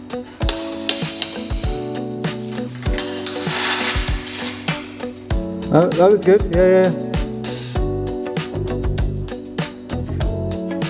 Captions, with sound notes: (metal clanking) Oh, that looks good. Yeah, yeah.